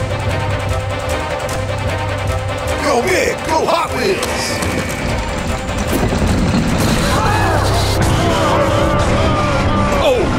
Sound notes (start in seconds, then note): 0.3 dramatic music; 7.0 smashing sound; 9.0 audience gasps